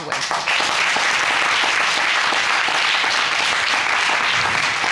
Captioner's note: audience clapping